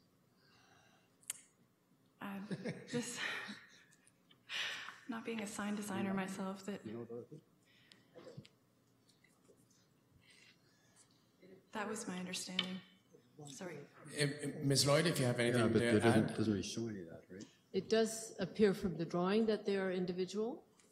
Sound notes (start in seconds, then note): 2.4 chuckles; 6.5 chuckles